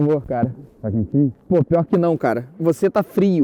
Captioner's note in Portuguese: voz abafada